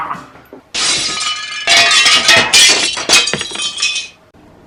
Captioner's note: breaking crockery and glasses